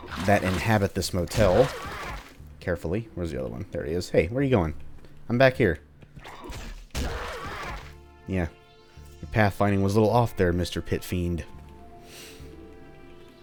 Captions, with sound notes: that inhabit this motel, *THWACK* carefully. Where's the other one? There he is. Hey, where are you going? I'm back here. *THWACK* Yeah, the pathfinding was a little off there, Mr. Pit Fiend.